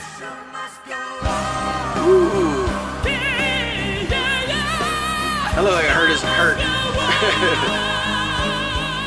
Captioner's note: laughs